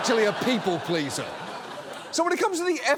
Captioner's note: audience laughs